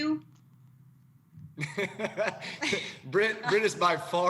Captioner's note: laughter